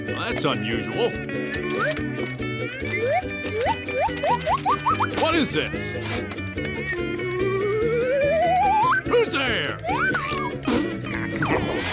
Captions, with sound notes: That's unusual. [whistle] [whistling with every page turn] What is this? [whistle] -Who's there? -[whistle]